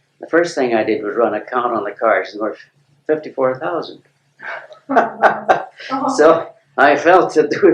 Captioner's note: laughter